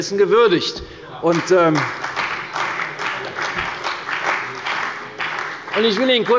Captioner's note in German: Beifall bei der CDU und dem BÜNDNIS 90/DIE GRÜNEN